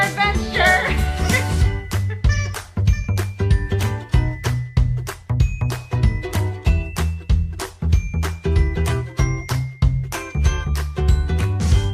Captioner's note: toy squeaks